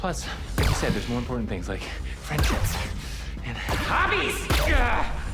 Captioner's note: grunts